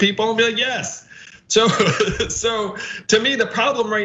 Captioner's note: laugh